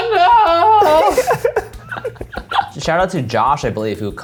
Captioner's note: laughing